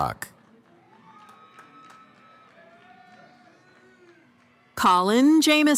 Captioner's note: cheering